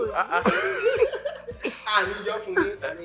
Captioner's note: laughs